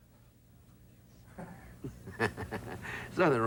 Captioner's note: laughter